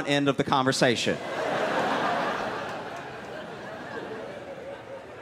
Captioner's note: laughter